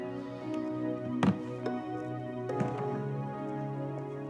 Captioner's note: plastic thumping